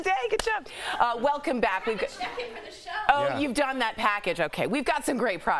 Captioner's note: laughter